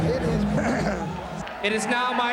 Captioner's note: clears throat